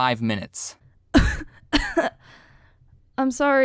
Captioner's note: cough cough